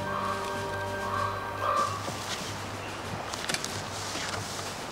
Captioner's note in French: les corbeaux croassent